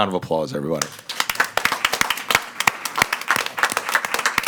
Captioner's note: all applauding